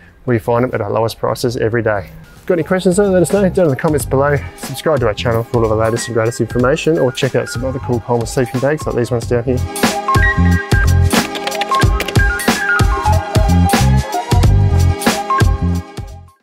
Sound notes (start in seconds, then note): 9.9 upbeat music; 11.1 keyboard clicking